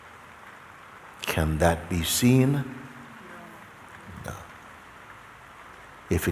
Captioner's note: voices in audience